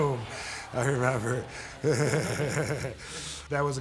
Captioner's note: laughs